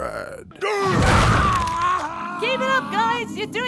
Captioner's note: Vegeta screaming